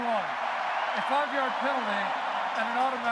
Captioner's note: cheering